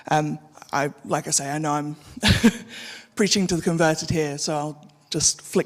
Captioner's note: chuckles